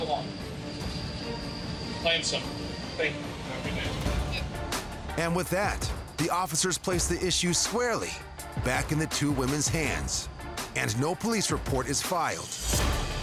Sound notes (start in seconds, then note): none